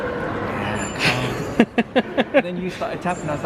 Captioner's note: laughs